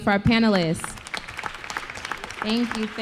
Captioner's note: applause